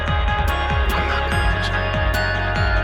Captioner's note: voiceover